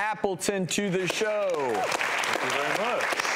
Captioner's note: applause